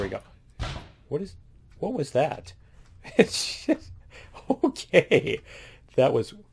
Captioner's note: laughs